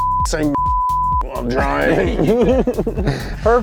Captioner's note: beep